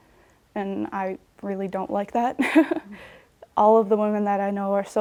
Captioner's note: laughs